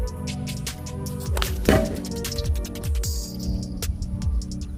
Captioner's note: loud thud